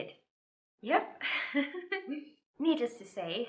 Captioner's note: chuckles